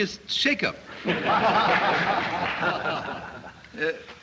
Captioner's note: laughter